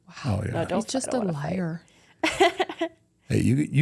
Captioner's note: chuckles